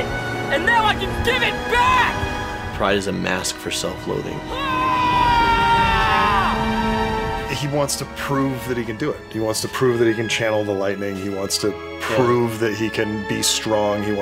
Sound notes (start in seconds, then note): 4.4 screams